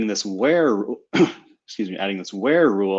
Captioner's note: coughing